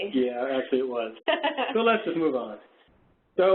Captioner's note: laughs